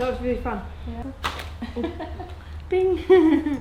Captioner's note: glove snapping; laughing